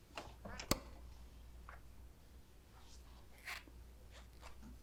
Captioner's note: switch clicking